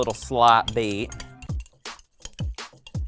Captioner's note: utensil tapping; upbeat music